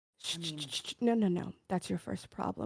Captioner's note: shushing